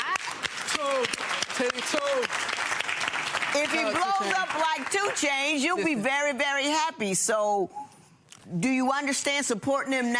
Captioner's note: audience applauding